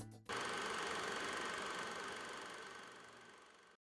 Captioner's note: film projector whirring